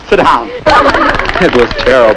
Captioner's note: laughing and clapping